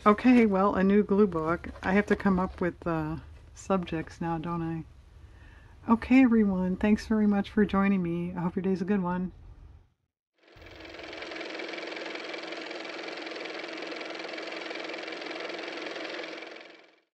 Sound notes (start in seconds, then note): 12.8 car motor